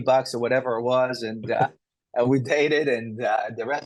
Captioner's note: laughs